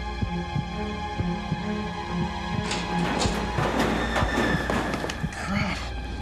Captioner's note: metal clanging